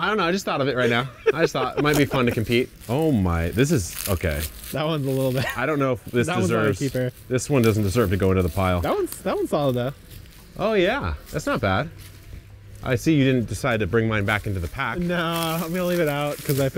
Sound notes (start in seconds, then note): 5.3 chuckles